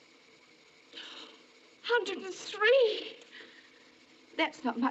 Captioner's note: gasps